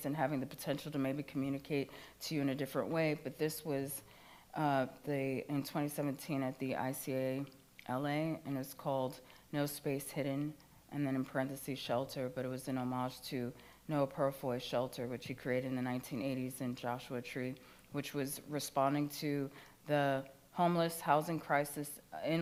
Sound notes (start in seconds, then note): none